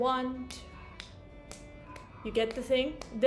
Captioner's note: taps herself